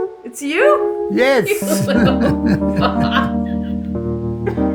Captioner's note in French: rires